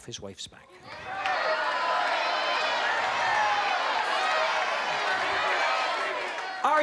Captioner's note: audience Shouting